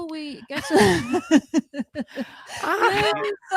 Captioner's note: laughter